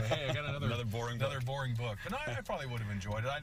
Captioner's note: laughter